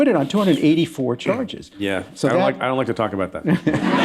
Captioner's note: laughter